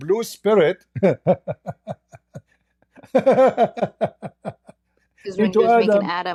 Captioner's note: Ketawa